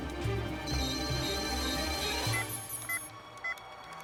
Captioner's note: beeping